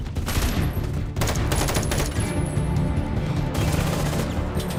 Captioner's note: gunfire clacking